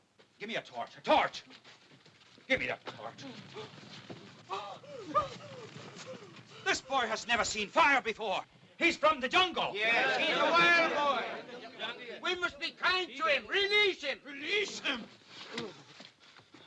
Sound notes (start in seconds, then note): 4.4 Mowgli makes exasperated noises